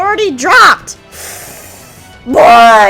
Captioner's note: deep inhale